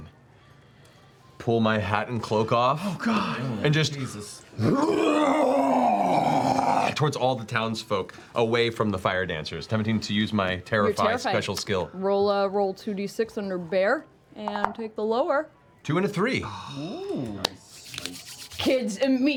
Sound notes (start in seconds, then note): 4.6 roar